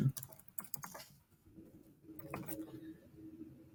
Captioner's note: typing